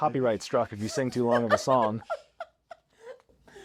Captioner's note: laughter